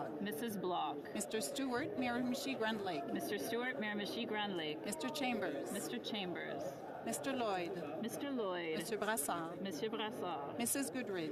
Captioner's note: calling of recorded vote